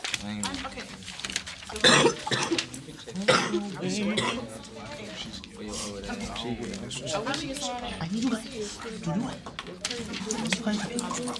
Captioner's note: students murmurs